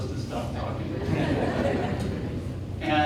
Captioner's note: audience laughing